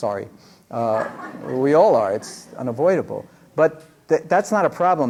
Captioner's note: laughter